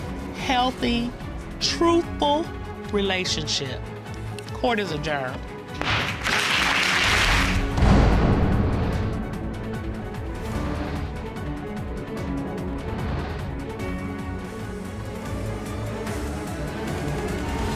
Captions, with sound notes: to have a happy, healthy, truthful relationship. Court is adjourned. (GAVEL BANGING) (AUDIENCE APPLAUDING)